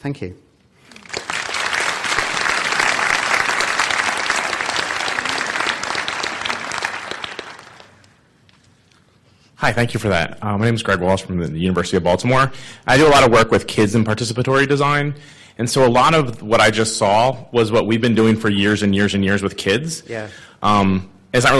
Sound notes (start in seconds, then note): 0.8 applause